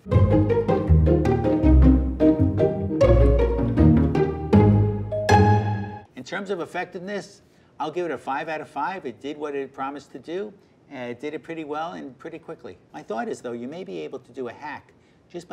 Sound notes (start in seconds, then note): 0.0 upbeat music; 5.1 timer dinging